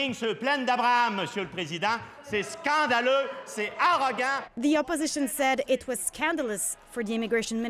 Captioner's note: speaking French